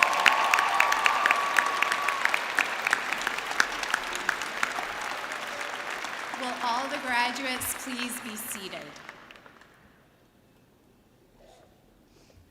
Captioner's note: cheering and applause